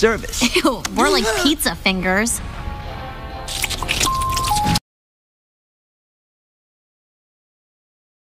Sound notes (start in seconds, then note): 3.2 doorbell rings; 3.4 sucking fingers